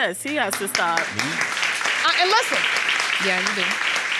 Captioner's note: audience applauding